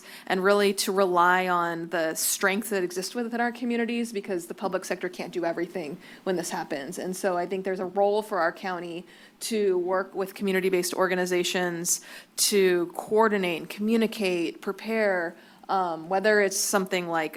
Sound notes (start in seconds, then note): none